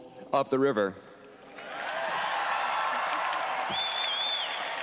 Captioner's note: cheering